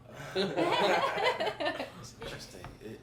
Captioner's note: group laughing